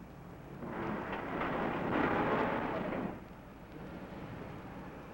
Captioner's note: truck engine revving